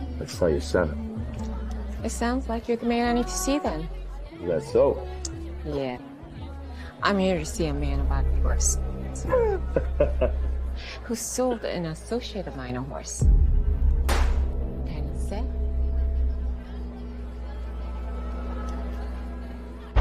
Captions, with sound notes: I'd sell you seven. - It sounds like you're the man I need to see then. - Is that so? - Yeah. I'm here to see a man about horse, (Vegas chuckling) (ominous music) who sold an associate of mine a horse. (gunshot firing) Can you say?